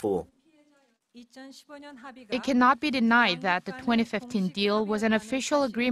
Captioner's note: Korean